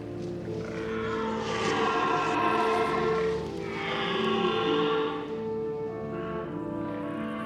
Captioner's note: deer roaring